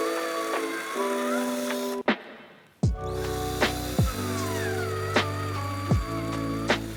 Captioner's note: drill whirring, music